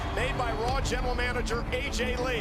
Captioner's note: crowd cheering